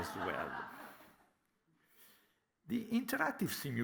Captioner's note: laughter